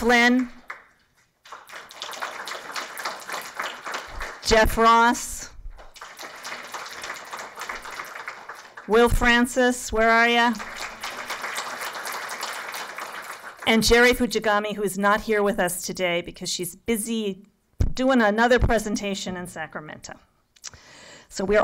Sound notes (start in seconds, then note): 0.0 applause